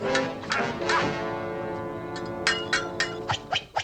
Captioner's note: grunting